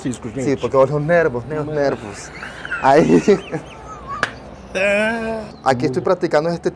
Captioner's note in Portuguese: risos